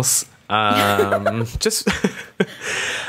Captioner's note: laughter